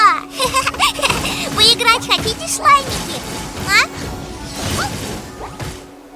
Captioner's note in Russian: смеется